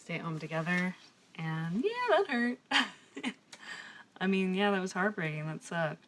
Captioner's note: laughs